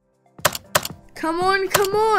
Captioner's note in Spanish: Golpe, golpe